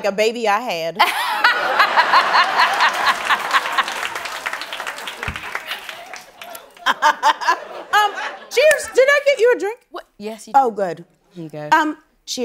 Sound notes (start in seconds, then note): 1.0 laughing; 2.3 applause; 6.1 laughing